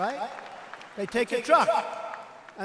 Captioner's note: applause